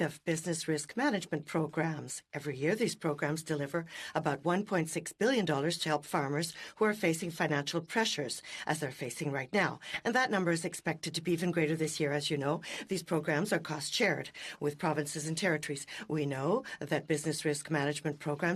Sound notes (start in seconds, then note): 2.1 speaking French